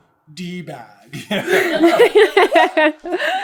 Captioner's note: laughter